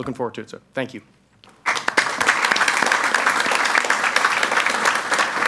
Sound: audience applauds

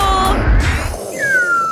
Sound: bang!

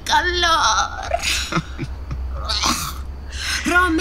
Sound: laughing

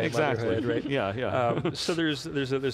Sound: laughs

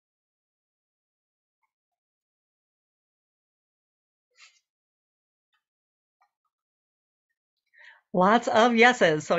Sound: silence

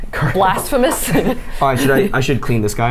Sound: laughs

